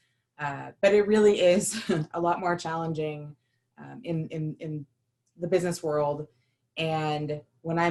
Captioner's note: laughter